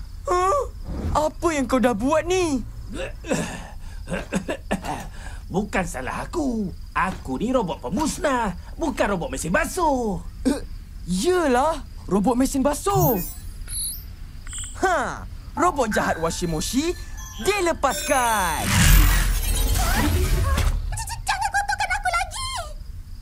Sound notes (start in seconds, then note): 2.9 coughs; 10.3 gasps